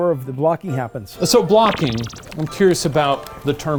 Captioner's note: digital pulsing